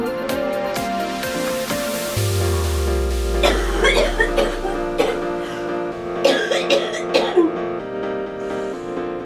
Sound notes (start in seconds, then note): 3.2 coughing